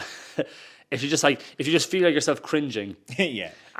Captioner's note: chuckles